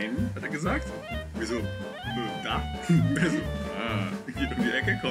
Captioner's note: impishly